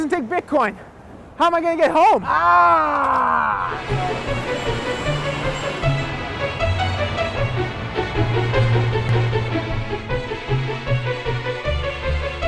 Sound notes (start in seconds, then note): 5.7 bike bell ringing